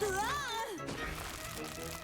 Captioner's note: shouts